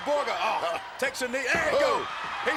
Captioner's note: commentators exclaim